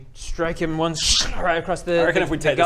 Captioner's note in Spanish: Scchhhrh